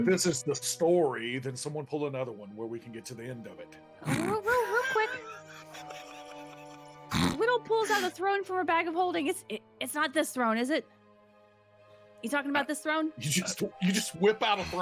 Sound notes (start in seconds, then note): 4.5 laughing